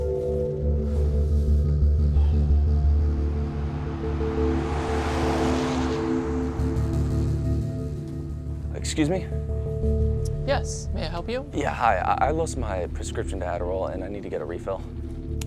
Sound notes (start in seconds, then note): 2.0 Drew sighs; 4.3 traffic humming